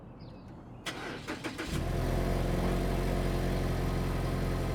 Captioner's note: car engine starts